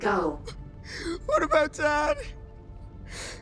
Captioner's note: sobbing